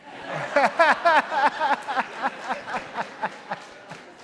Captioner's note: audience laughs